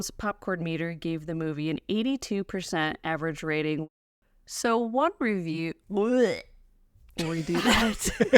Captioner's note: makes gagging sound